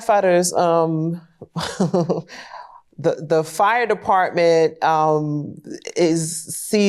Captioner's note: chuckles